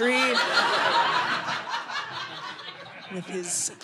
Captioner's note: audience laughing